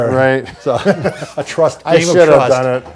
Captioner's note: both laugh